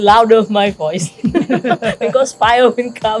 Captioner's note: laughs